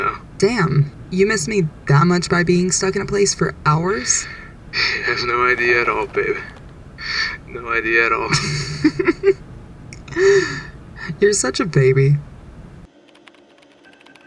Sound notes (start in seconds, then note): 8.3 Cinder snickers